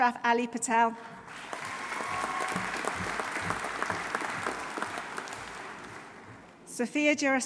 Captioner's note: audience applauding; audience cheering